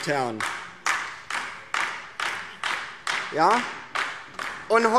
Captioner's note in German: Beifall DIE LINKE